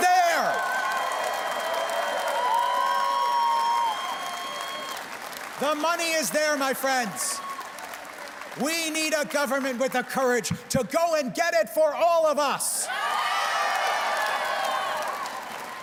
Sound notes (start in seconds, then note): 3.9 cheers and Applause